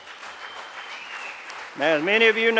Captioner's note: applause